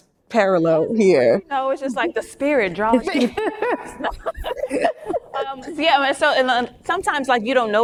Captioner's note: laughs